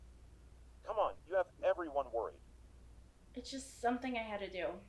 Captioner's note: crickets chirping